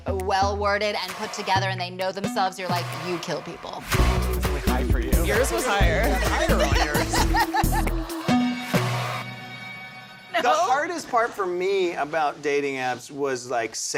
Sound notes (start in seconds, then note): 5.9 laughter